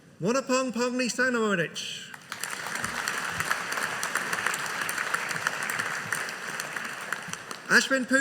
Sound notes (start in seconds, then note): 2.1 audience applauding